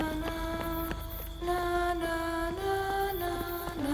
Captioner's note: peaceful music; singer vocalizes; rapid footsteps